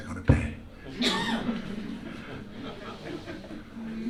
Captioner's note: laughter